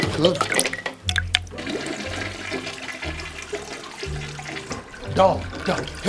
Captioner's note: toilet flushing